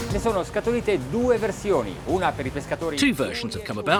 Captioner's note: speaking in foreign language